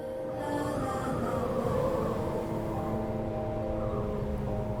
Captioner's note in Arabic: تهب الريح